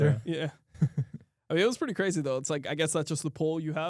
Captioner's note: laughs